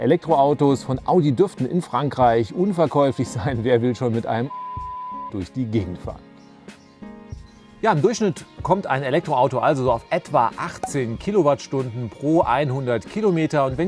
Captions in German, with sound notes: Elektroautos von Audi dürften in Frankreich unverkäuflich sein, wer will schon mit einem *Pieep* durch die Gegend fahren? Im Durchschnitt kommt ein Elektroauto also auf etwa 18 Kilowattstunden pro 100 km,